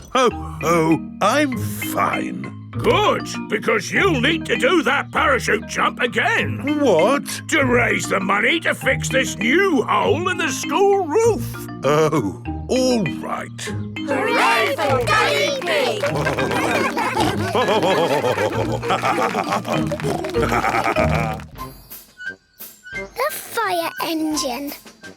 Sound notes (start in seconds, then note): 16.9 all cheering; 18.0 laughing; 20.1 snorting